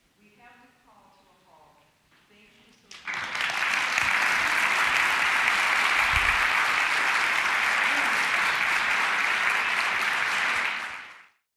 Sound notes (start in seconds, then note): 2.8 applause